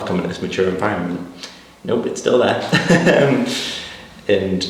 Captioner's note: laughs